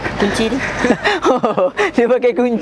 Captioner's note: laughing